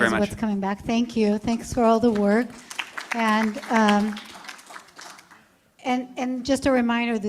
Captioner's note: applause